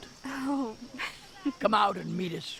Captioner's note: laughs